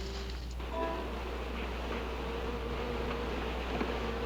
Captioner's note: buzzing